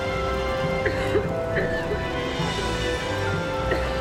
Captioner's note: dramatic orchestral music continues; Lisa coughing